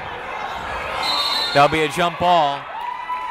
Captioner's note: whistle blowing